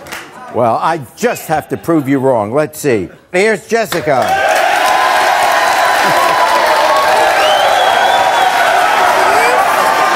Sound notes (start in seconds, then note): 3.9 audience clapping